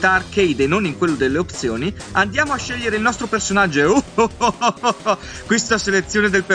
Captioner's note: laugh